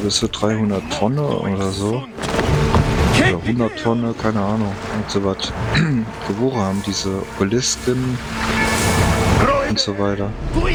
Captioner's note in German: stöhnen; räuspern